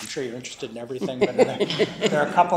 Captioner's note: laughter